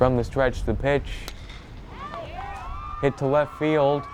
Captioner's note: bat cracks